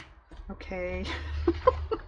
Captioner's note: laughs